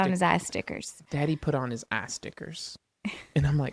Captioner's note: laughs